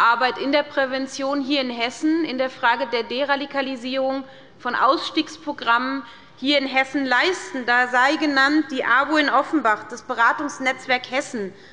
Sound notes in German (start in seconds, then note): none